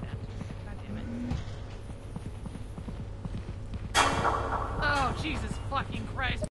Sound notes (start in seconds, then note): 4.0 familiar Metallic Horror Sfx